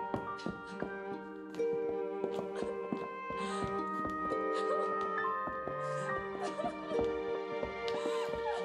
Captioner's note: <i> sobbing</i>